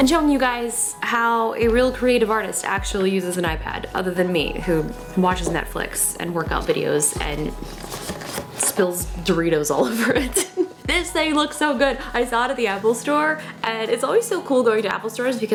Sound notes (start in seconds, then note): 9.9 laughs